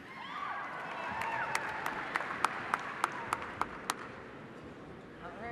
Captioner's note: cheers and applause